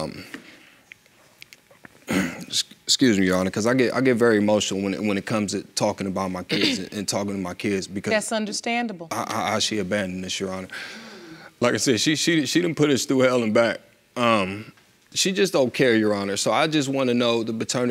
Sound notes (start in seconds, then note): 2.0 clears throat